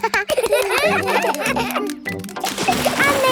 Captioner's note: children laugh